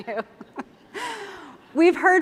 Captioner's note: laughter